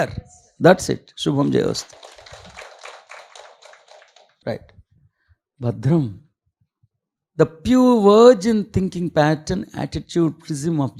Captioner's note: clapping